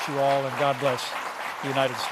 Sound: applause

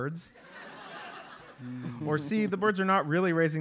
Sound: laugh

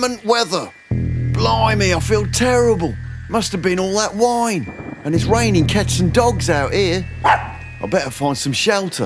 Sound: bark

